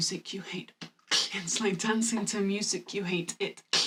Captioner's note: beatboxing